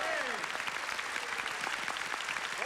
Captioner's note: applause